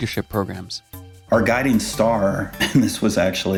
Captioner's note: chuckles